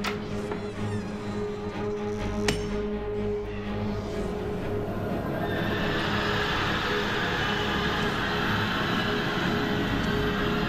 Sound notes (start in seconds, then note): 0.1 door creaking; 5.0 shrieking